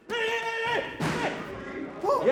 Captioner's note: grunting